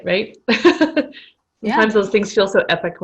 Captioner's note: laughter